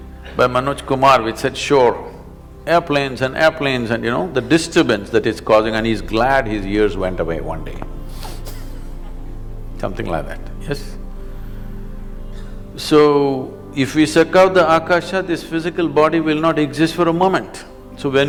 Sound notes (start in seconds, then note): 9.2 laughs